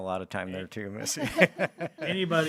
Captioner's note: everybody laughing